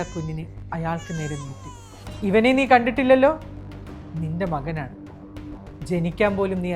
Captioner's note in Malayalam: കരയുന്നു